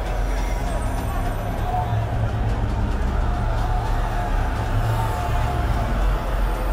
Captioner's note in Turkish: Bağırma sesleri